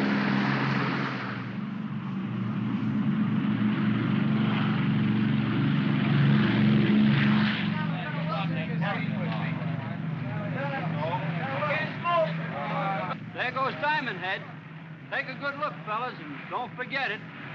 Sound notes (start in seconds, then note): 0.0 aircraft accelerates; 1.7 aircraft rumbles